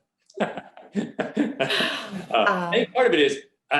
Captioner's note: laughing